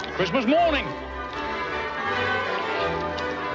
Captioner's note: bells ringing